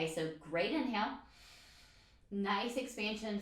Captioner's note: inhales deeply